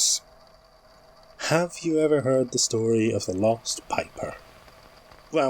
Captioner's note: static rising